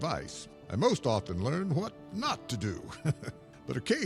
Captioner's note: chuckles